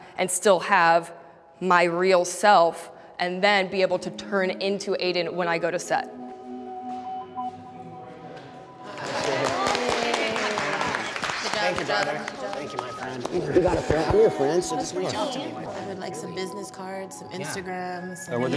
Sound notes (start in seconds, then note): 6.6 light music; 8.8 participants applauding